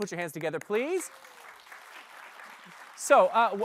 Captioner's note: applause